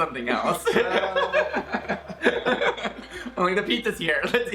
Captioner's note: both laughing